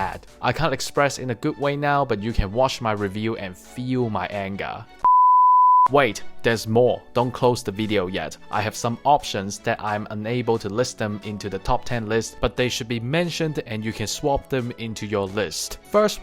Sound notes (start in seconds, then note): 5.0 beep